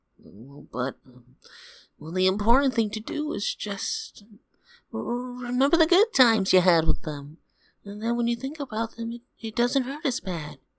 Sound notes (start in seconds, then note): none